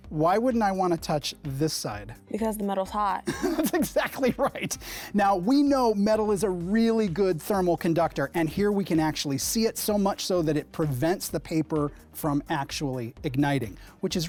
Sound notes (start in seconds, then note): 3.2 laughs